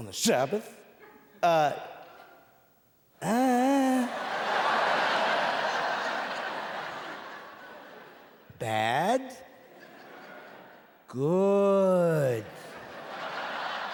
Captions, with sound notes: Heal his hand, they didn't see that, is he gonna work on the Sabbath. Ah... [grunting] Bad...